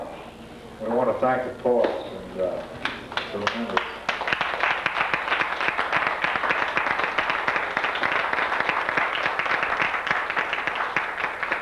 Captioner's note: applause